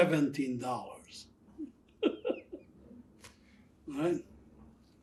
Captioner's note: laughing